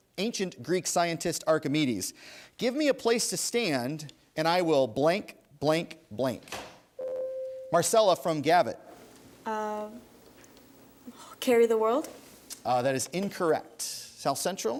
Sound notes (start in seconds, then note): 7.0 ding